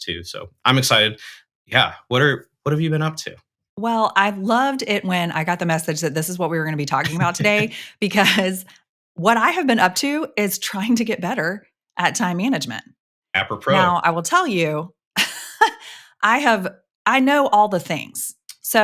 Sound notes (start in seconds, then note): 7.0 chuckles; 15.1 laughs